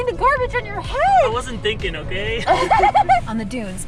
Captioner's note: laughter